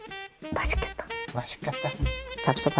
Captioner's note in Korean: 침 꿀꺽